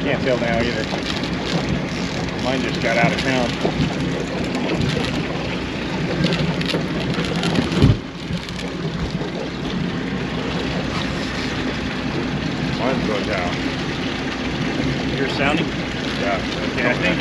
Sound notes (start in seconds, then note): 7.7 water lapping; 10.3 shuffling